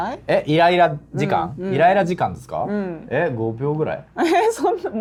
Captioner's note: laughs